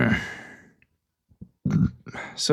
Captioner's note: sighs; burps